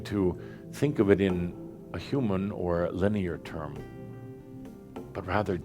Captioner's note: none